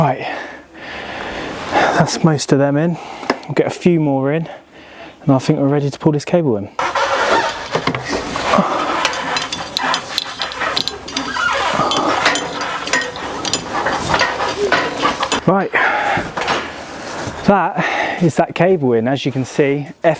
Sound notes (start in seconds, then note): 7.2 metal clanging; 13.7 metal creaking